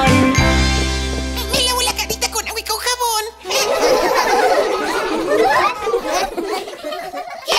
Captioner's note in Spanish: Risas